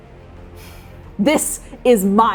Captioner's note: sighing